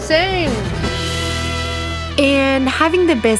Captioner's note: sizzling